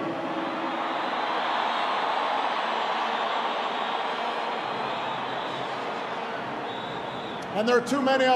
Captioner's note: applause